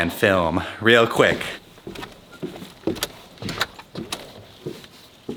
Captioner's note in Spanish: pasos